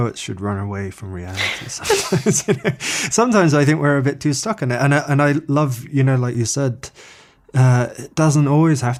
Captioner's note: they laugh